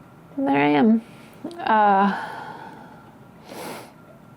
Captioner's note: sighs